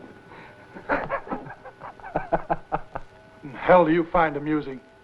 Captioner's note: chuckles